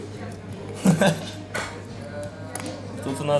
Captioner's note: laughs